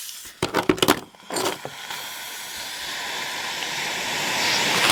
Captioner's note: phone hisses